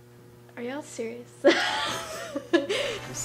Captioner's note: laughter